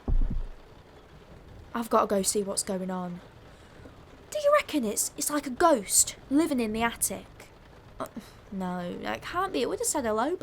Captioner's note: bang